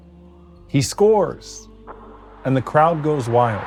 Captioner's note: ball thumping; audience cheering